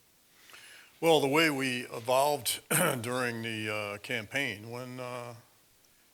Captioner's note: cough